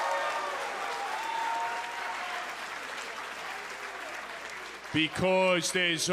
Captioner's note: cheers & applause